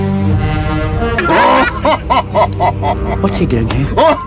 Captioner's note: laughing